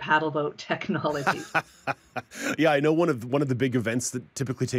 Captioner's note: laughs